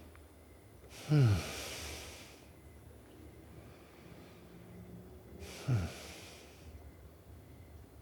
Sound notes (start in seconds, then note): 1.0 Ulysses grunting